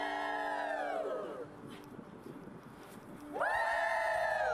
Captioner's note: crowd cheering